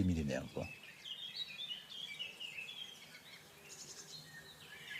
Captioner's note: birds chirping